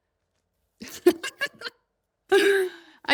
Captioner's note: laughs